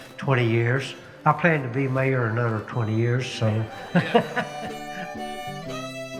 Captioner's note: laughs